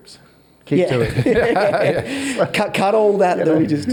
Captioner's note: all laugh